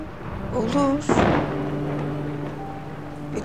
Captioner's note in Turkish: Gök gürlüyor